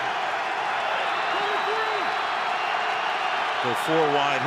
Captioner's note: crowd cheering